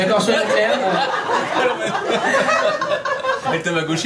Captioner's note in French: rires public